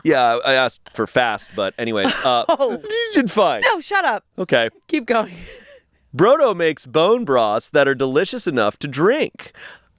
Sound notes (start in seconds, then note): 2.0 laughs; 5.8 laughs